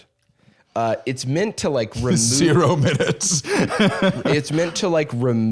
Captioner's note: laughs